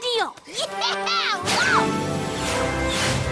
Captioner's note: whoosh